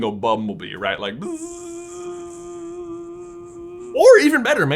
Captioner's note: imitates bumblebee